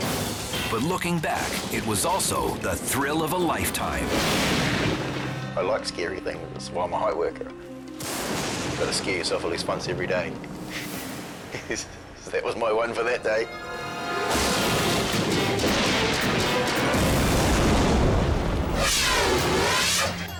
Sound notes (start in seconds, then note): 11.5 laughs; 14.3 thunder booms; 18.4 air whooshes